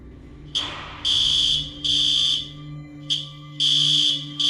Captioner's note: alarm blaring